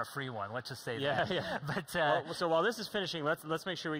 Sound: laughing

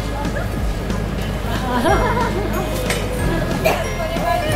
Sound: laughter

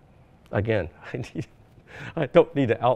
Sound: chuckles

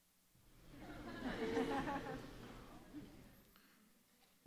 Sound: audience laughs

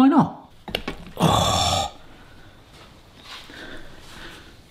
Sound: gasping

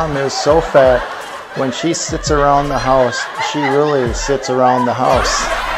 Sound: laughter

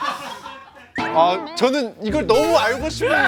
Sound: tries to hold back the laughter

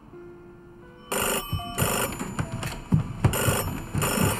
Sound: phone rings

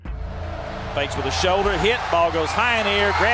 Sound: voiceover

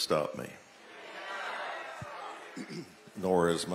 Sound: audience exclaiming

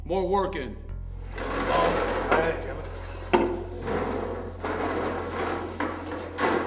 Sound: chairs scrapping

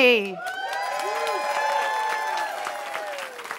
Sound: cheering

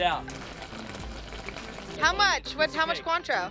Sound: cranberries sizzling

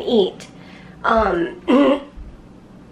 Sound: clears throat

